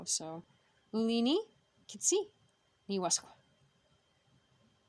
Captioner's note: speaking Abenaki Language